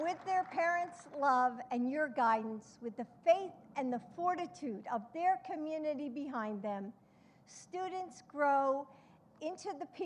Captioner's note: applause